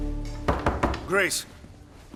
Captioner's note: knocks